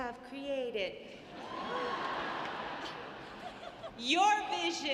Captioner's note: audience laughing